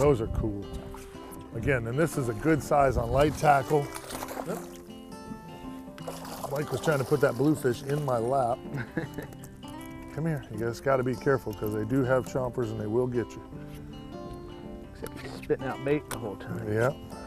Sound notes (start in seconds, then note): 6.0 splash